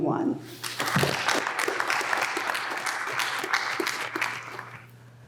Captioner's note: applause